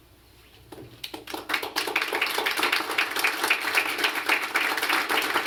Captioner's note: applause